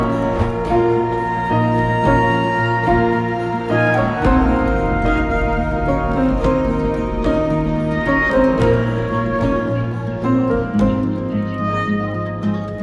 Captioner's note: cheering